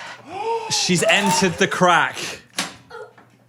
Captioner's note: Dan gasps